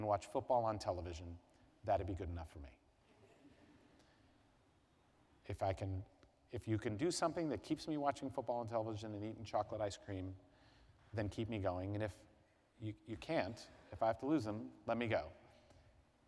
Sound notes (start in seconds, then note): 3.1 laughter